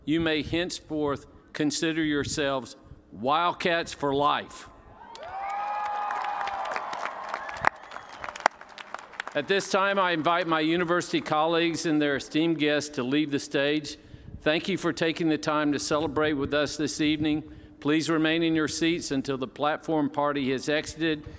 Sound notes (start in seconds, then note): 9.3 cheers and applause